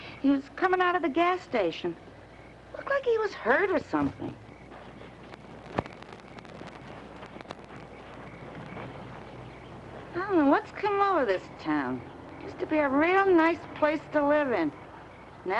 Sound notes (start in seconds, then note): none